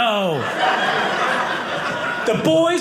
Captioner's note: audience laughing